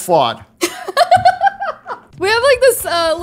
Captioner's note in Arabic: تضحك